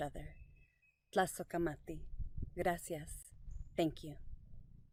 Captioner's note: speaks in foreign language